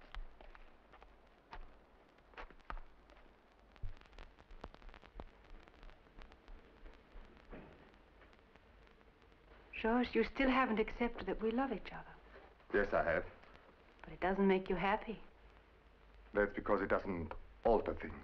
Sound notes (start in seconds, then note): none